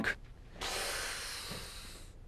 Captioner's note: scoffs